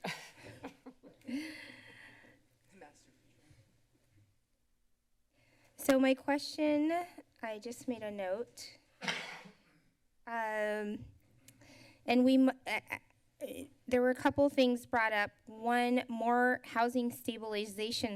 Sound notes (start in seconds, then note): 0.0 laughter; 9.0 coughs